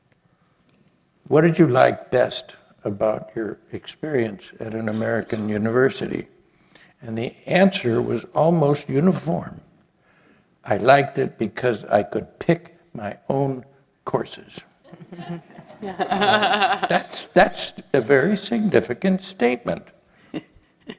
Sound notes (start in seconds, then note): 14.8 laugh